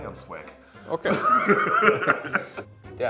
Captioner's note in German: Lachen